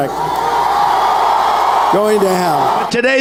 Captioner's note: audience Cheers